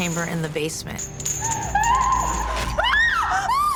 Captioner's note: screaming